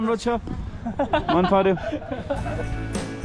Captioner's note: laughs